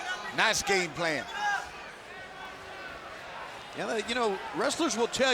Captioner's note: fans cheering